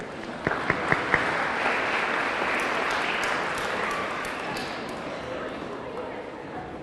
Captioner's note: audience clapping; audience cheering